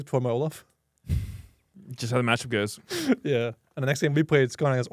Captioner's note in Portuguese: risos